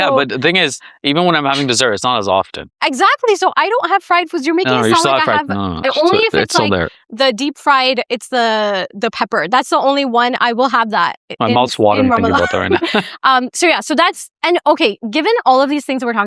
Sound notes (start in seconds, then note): 13.1 laughs